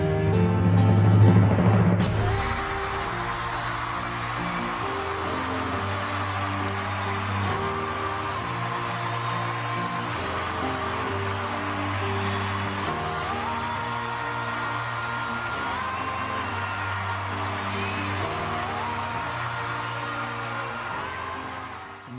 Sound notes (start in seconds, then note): 12.8 ahhh, Ohhh